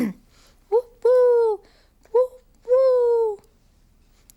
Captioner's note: Tula hooting